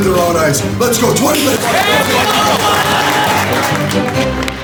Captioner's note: clapping & cheering